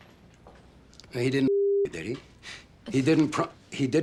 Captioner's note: scoffs